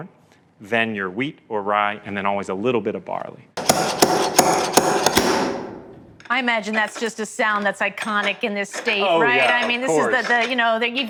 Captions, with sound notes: then your wheat or rye, and then always a little bit of barley. [ Pounding ] -I imagine that's just a sound that's iconic in this state, right? I mean, this is the, you know -- -Of course.